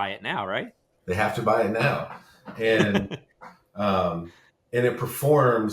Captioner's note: chuckles